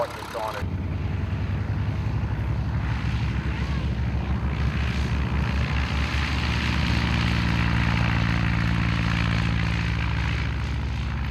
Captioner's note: aircraft sounds